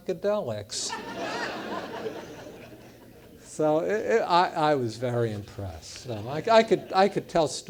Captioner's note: laugh